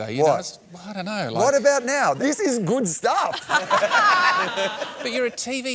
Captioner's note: laughter